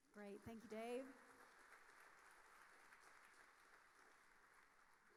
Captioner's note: audience applauding